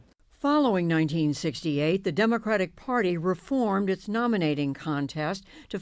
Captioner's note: voice-over